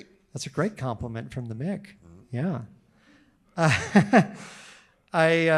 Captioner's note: laughs